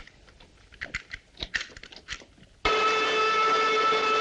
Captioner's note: engine whistling